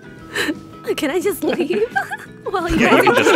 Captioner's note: laughter